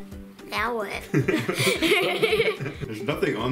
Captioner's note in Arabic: ضحك